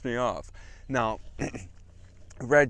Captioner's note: cough